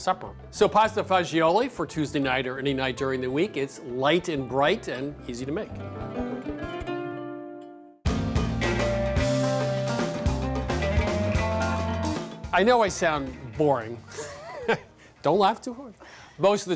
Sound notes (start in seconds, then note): 14.0 both laugh